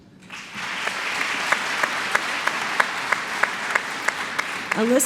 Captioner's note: applause